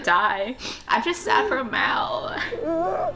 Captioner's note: sobs